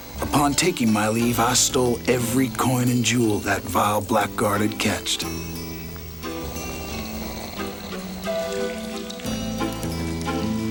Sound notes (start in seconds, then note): 6.4 gang member snores